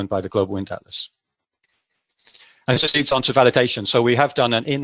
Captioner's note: distortion interferes with audio